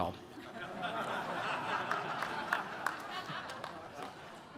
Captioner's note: attendees laughing